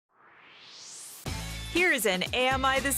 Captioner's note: swoosh